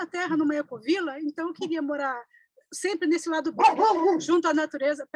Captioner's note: barking